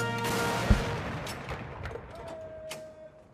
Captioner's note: gunshots